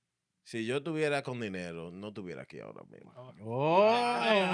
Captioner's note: speaking Spanish